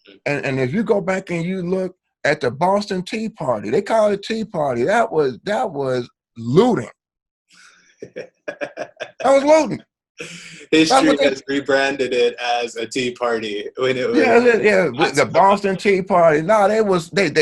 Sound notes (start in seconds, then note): 8.4 laughs